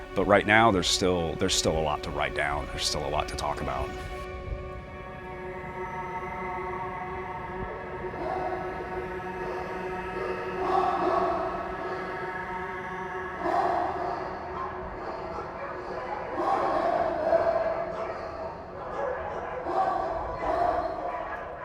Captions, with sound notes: there's still a lot to write down, there's still a lot to talk about. (haunting music) (dogs barking) (dogs barking continues)